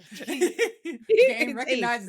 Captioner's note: laughing